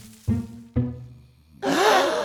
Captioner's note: gasps of fear; snoring